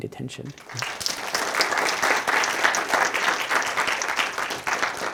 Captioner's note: attendees applauding